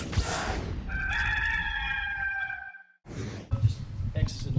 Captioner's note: rooster crowing